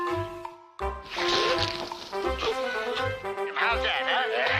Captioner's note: water splashing